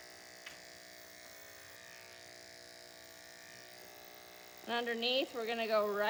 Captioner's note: buzzing noises